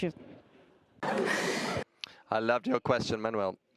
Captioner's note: audience laughing